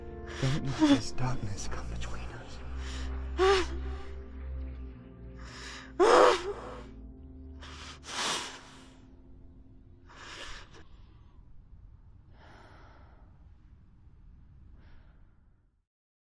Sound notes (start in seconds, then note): 0.0 quiet sobbing; 5.5 sobbing